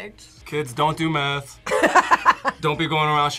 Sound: laughs

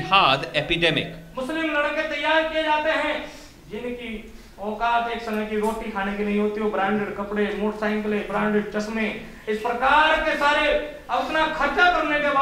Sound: non-english speech

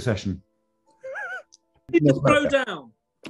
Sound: sniggering

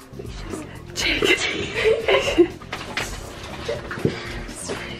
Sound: laughing

